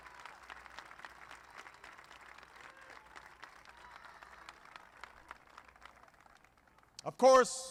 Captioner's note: applause